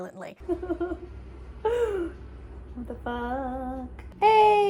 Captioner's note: laughs